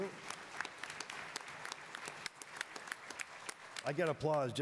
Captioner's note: attendees applauding